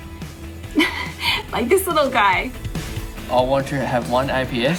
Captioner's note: laughs